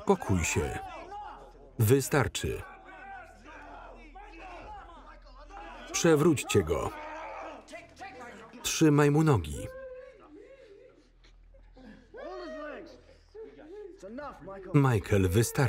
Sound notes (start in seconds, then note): 4.0 yelling; 9.8 Michael sobbing